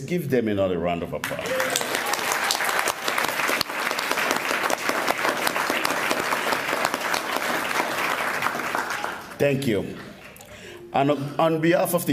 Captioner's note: applause